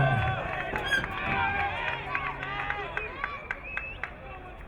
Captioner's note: crowd cheering